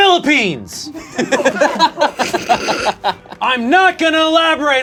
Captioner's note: group laughs